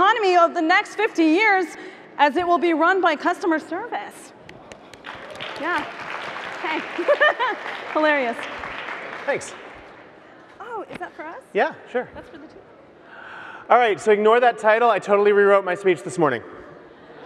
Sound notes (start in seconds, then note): 4.5 audience applauds; 6.6 laughs